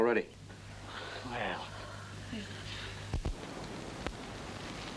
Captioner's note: relieved sighs